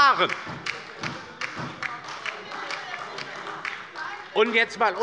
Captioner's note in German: Beifall bei der LINKEN und bei Abgeordneten der SPD - Widerspruch bei der CDU